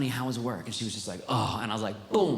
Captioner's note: sighs